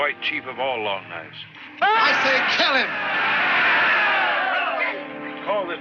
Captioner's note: indians hollering